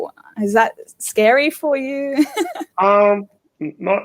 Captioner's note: laughing